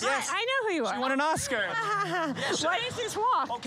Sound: laughs

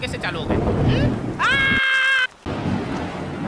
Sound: thundering; shouts

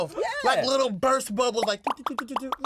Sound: bubbles popping

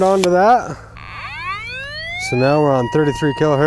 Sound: machine squeals

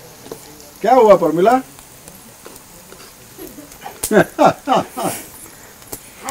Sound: laughs

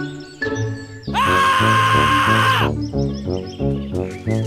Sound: screaming

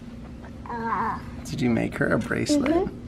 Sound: gurgles

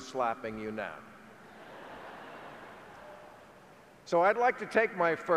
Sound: audience chuckling

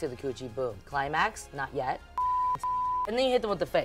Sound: beep

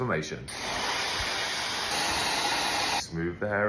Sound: blow-drying hair

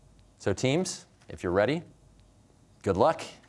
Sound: none

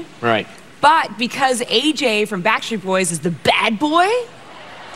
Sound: laughter

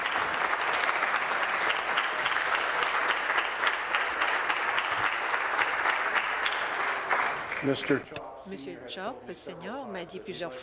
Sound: applause

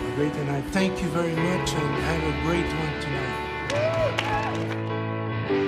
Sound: band members applaud

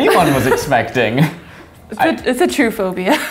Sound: laughing

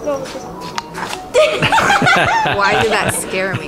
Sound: laughter

